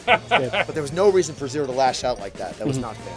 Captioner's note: laughing